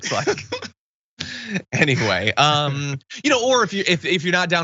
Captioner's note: laugh